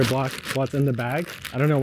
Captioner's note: bag crinkling